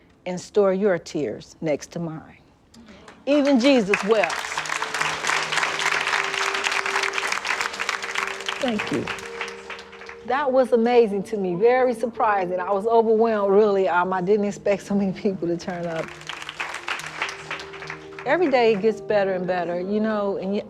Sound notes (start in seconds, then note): 5.2 applause; 15.7 applause